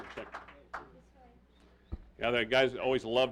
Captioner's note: applause